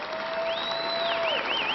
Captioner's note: applause